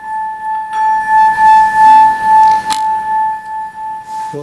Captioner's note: female voice